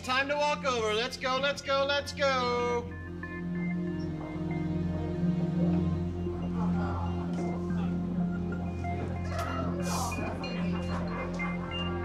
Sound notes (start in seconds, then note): 4.7 indistinct chatter; 8.8 suspenseful music